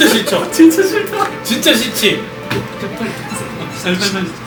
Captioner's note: the audience is buzzing